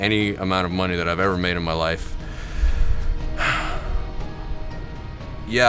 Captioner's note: sigh